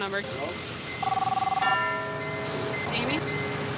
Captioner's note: line ringing